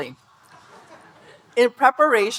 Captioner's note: audience laughing